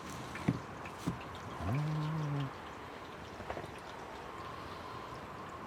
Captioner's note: wind rustling